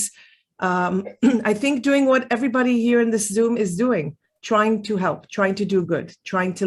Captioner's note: clears throat